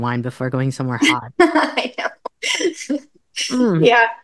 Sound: laughing

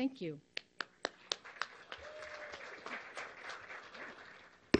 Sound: applause and cheering

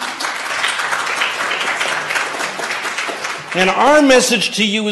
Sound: applause

